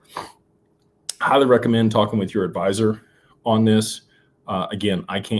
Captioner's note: snorts